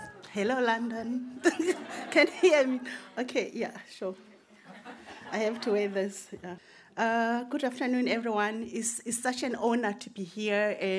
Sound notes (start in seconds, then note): 1.4 audience laughing; 1.5 laughs; 4.6 audience laughing